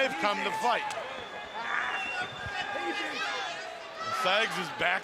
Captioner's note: crowd chatter